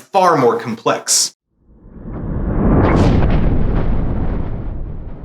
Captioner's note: thunder rumbling